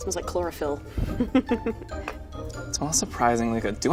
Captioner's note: laughing